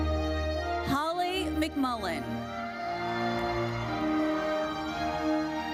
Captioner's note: audience cheers